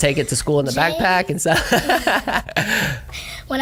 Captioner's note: laugh